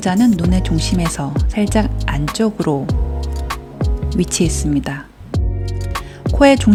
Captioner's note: voiceover